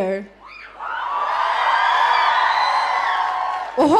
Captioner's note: audience cheering